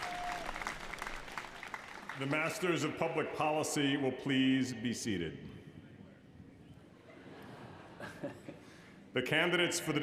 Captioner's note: applause